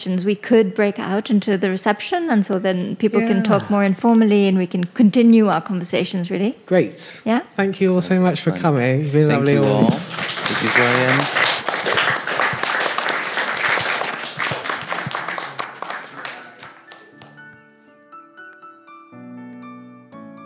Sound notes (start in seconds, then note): 9.4 audience applauds; 16.3 gentle instrumental music